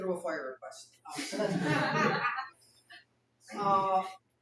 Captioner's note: laughter